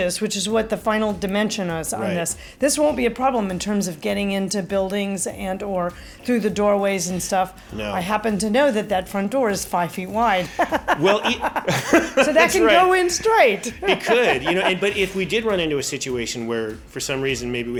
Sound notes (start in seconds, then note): 10.4 laughs loudly